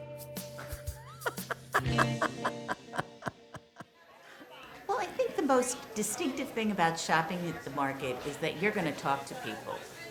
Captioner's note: laughter